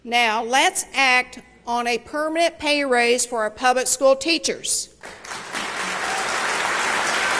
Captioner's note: applause